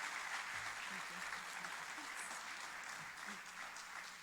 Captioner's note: applauding